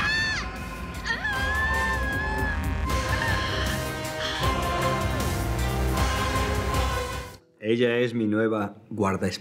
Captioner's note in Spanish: grito